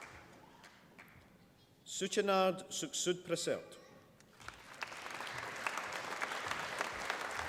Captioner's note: applause